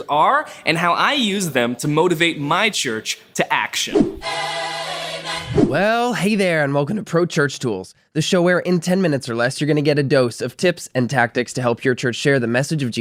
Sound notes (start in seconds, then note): 3.8 screen whooshes